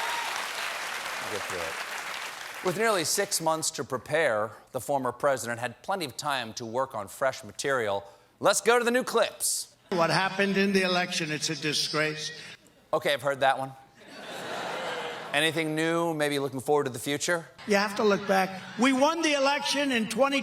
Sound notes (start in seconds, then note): 3.6 cheers and applause